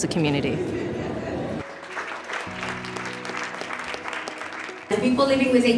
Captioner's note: audience applause